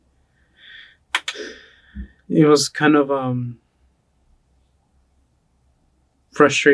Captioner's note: sighs